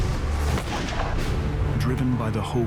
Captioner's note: gunshot